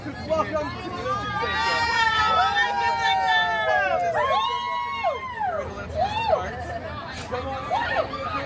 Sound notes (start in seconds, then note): 1.0 guests cheering